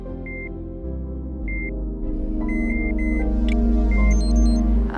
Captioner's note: monitors beep